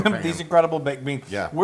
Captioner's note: laugh